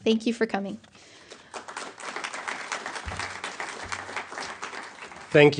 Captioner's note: applause